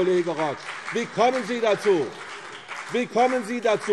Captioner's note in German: Beifall CDU und BÜNDNIS 90/DIE GRÜNEN